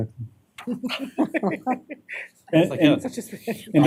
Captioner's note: laughter